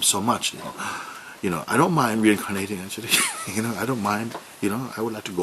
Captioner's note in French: rire